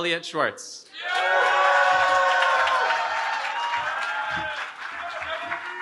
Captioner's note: cheering